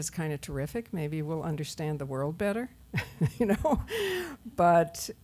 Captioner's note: laughs